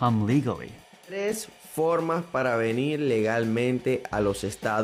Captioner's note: speaking spanish